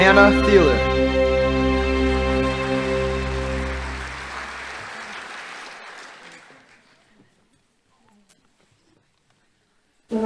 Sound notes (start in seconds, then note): 2.0 audience applauding